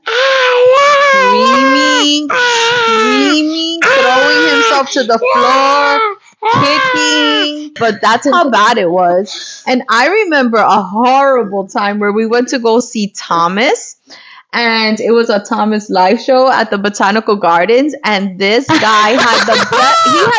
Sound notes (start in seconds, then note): 0.0 screaming